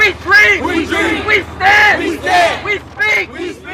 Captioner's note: crowd